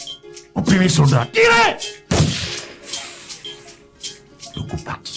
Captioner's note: gunshot sound